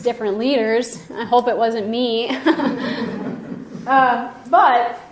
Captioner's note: mild laughing